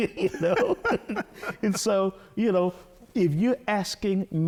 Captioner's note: both laughing